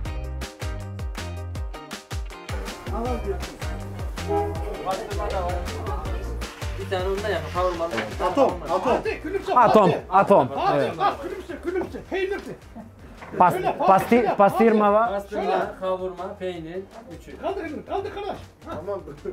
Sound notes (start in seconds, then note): 7.3 foreign Language